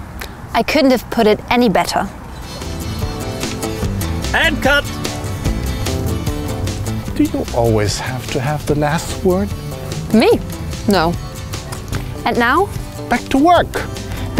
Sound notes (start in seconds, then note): 3.8 voice-over